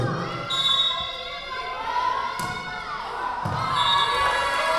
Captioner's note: whistle blowing; whistle blowing